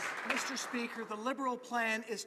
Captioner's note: some Applause